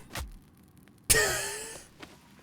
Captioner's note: chuckles